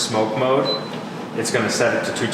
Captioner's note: beep